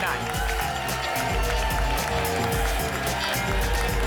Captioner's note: applause and cheering cont